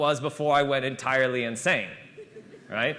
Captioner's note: laughter